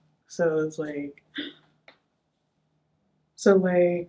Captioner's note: gasps